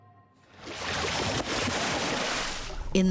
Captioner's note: splashing